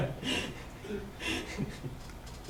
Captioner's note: laughter